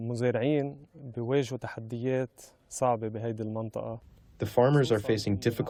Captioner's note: through translator